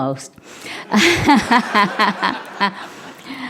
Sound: laughing

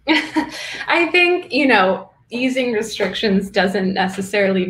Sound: laughs

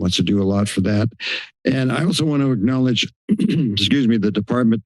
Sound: clears throat

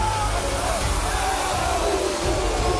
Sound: team Chanting

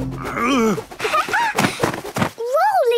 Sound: laughing

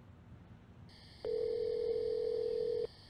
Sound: phone rings

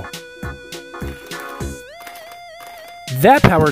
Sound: drill rattling

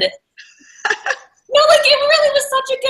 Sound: laughs

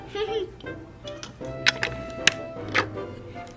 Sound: laughing

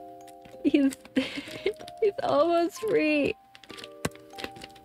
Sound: laugh

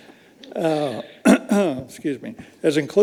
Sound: all chuckling; clears throat

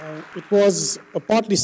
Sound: applause

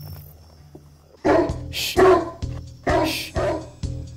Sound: deep barking

